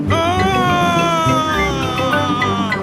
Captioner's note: screaming